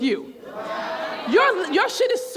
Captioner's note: crowd